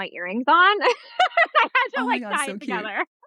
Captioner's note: laughs